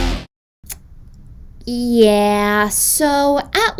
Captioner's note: sucks teeth